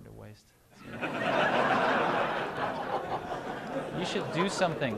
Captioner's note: laughter